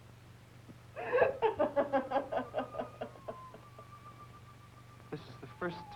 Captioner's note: crying